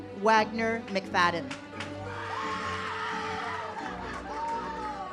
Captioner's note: audience cheers; uplifting music